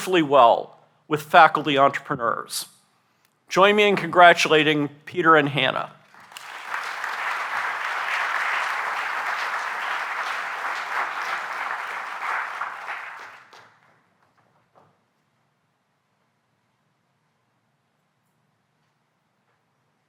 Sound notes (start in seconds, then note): 6.0 applause